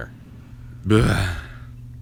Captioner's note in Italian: gemito